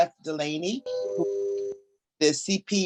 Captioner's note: Zoom notice chimes